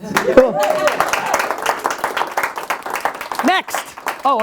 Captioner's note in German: Jubel und Applaus